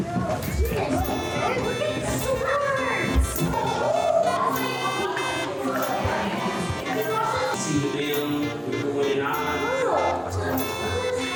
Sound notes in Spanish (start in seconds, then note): 0.2 los clientes parlotean; 3.8 los clientes continúan charlando; 3.8 música jovial